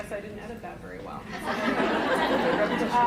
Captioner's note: laughter